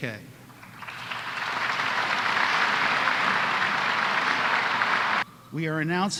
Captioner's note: applause